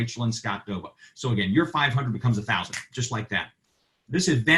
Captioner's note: snaps